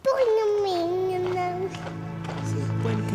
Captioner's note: cute baby voice trying to say “Buen Camino”